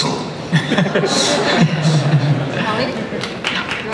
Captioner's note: laughter